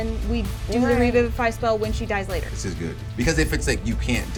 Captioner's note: none